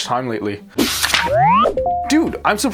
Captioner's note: electronic beeping